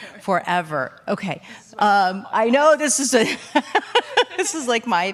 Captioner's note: laughs